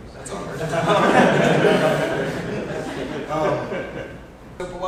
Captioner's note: audience laughs